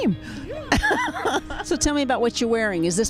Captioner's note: laughs